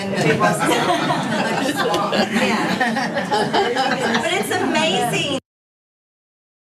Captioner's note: laugh